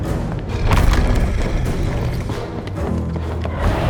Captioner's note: stone crumbling